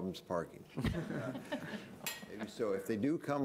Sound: laughter

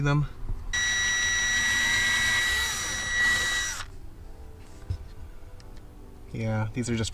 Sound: drilling

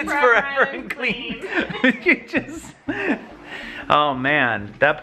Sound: laughs

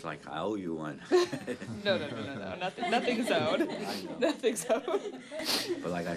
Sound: laughter

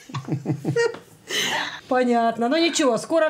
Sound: grandparents chuckle

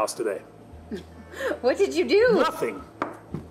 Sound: chuckles

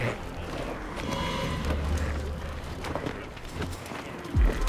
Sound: footsteps

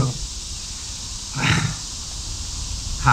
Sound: sigh

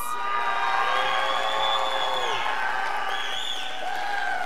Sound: scholars applauding

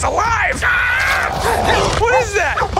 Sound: screaming

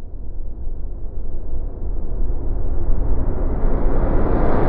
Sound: turbulence rising

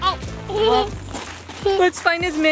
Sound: giggles

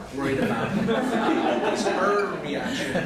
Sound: laughter

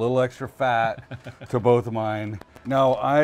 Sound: laughing

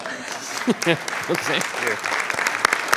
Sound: clapping; laughing

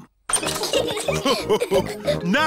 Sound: all laugh

